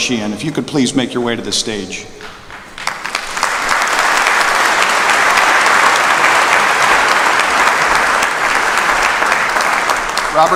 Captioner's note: applause